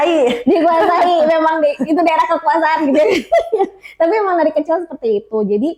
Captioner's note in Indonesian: tertawa